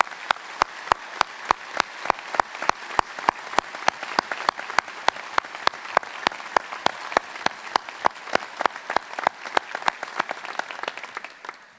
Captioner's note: applause